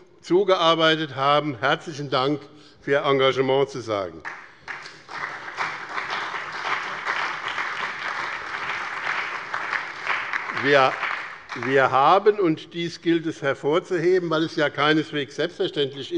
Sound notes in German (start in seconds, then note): 4.2 Allgemeiner Beifall